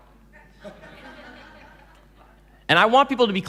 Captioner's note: laughing